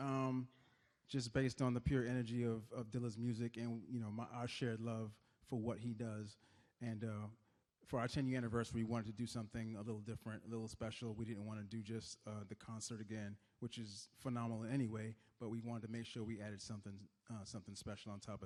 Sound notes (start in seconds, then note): none